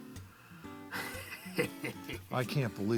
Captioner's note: laughs